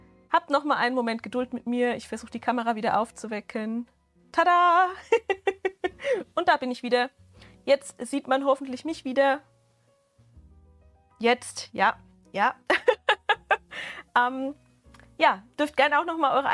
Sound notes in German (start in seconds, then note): 5.0 Gelächter; 12.7 Gelächter